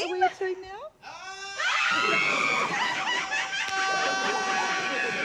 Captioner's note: both scream excitedly; josh yells